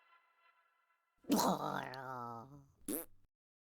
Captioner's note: grumble fart